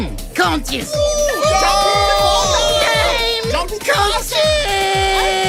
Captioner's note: cheering